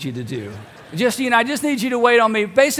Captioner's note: congregation laughs